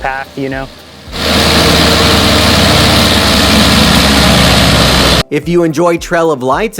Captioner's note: mower running loudly